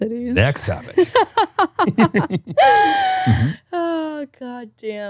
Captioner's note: laughing